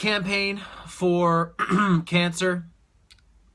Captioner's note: clears throat